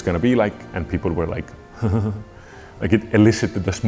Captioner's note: chuckles